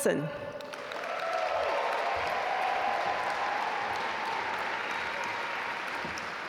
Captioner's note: audience cheer and applaud